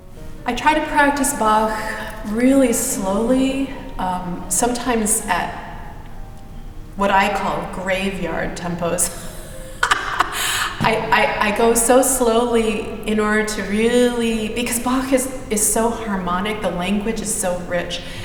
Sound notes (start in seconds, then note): 9.0 laughs